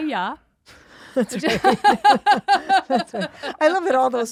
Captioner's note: laughs